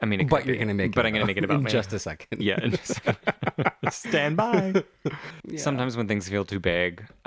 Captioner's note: laugh